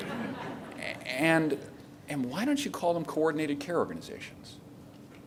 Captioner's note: laughter